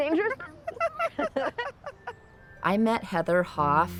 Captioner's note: laughter